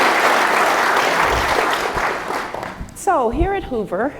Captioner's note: applause